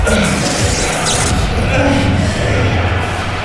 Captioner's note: crowd